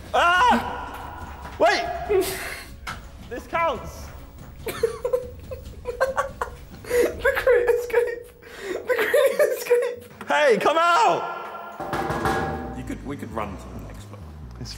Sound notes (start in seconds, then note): 4.6 laughing